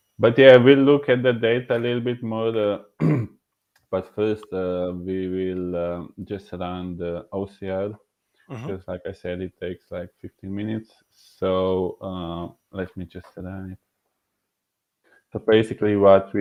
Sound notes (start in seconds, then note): 4.6 clearing throat